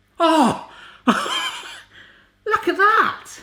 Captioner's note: laughs